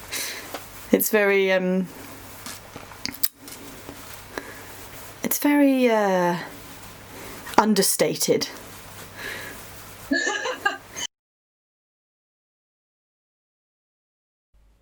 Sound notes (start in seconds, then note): 10.1 laughs